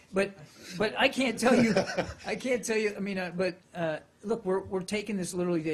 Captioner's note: laughter